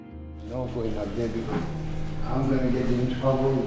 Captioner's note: speaking foreign language